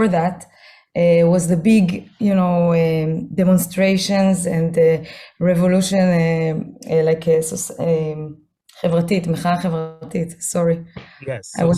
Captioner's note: hebrew